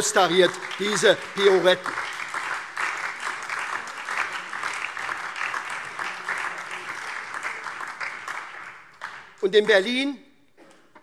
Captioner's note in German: Beifall SPD, Freie Demokraten und DIE LINKE